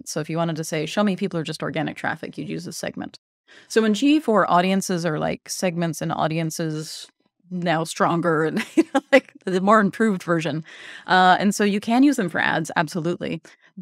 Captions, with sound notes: So if you wanted to say show me people who are just organic traffic, you'd use a segment. So when G4 audiences are like segments and audiences now stronger and (chuckles) like the more improved version and so you can use them for ads absolutely.